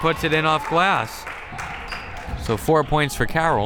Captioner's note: crowd members clapping